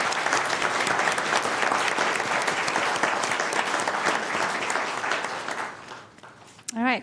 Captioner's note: applause